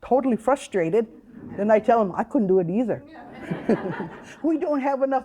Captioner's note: all chuckling